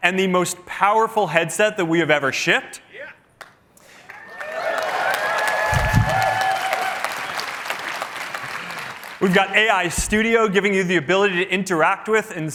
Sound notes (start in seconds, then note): 4.0 cheering